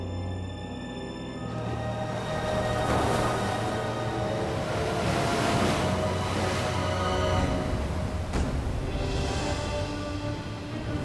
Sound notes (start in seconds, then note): 1.6 haunting choral music; 1.6 water splashing; 7.6 intense music